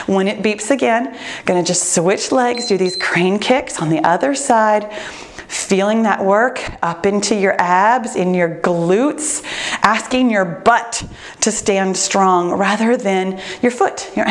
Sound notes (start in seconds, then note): 2.4 timer beeps